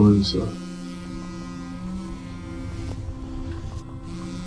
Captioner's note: phone ringing